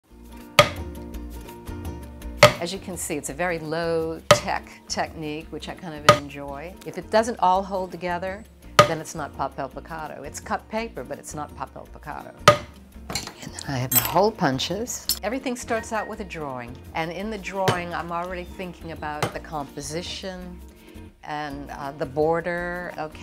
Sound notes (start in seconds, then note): 0.6 hammering; 12.5 hammering; 13.9 tools clanking